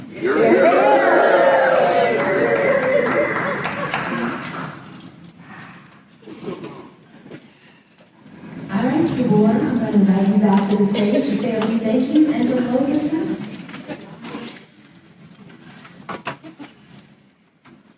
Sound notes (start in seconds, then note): 0.0 cheering